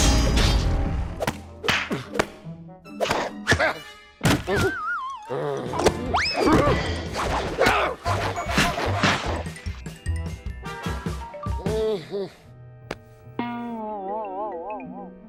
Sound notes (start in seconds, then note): 1.9 grunting; 11.6 groans